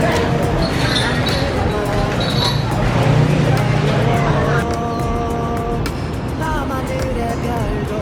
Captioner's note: walking around